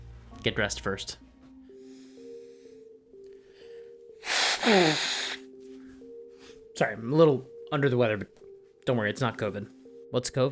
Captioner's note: blows his nose